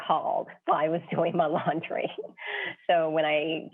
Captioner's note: laughs